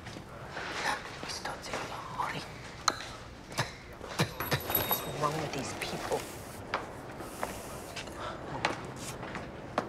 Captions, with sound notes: [Mumbling in Greek] [Spitting] What is wrong with these people.